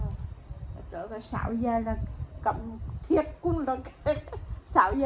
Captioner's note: laugh